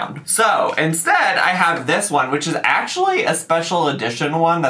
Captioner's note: none